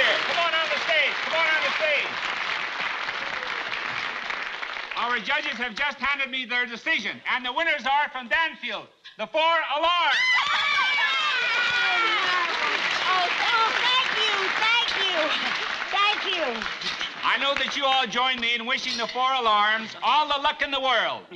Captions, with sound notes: Come on out on the stage. Come on out on the stage. [ Applause stops slowly ] Our judges have just handed me their decision, and the winners are from Danfield... The Four Alarms! [ Screaming with joy ] - Oh, tha- - Oh, thank you! Thank you! Thank you! - I know that you all join me in wishing the Four Alarms all the luck in the world,